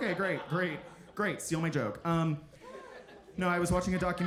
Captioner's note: audience chuckling